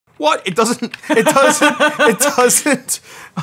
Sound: laughing

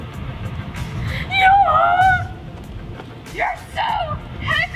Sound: yelling

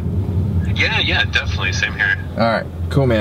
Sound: voiceover

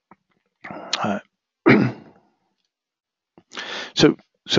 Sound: cough

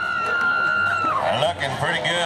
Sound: women whooping

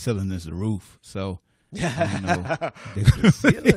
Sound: laughter

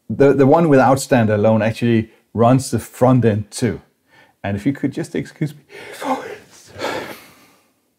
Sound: sneezes

